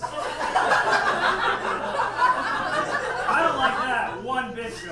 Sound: audience laughs

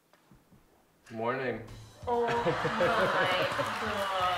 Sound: laughs

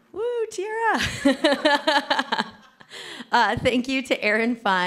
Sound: laughs

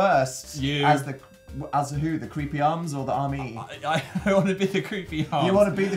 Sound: laughing

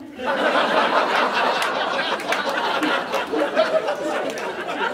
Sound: audience laughing

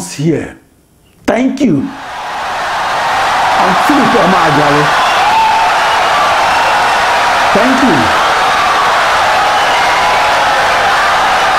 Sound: wild applause and cheering for 17 seconds

